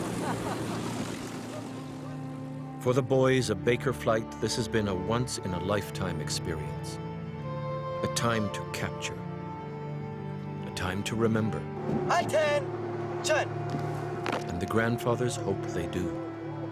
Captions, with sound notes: - [Voiceover] For the boys of Baker Flight this has been a once in a lifetime experience. A time to capture. A time to remember. - [Voiceover] Attention. - [Voiceover] And the grandfather's hope they do.